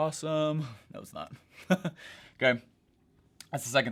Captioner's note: chuckles